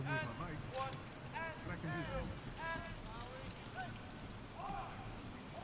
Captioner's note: military commands off mic